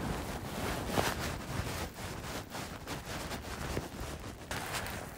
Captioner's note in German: Geräusch vom Schnee trampelndem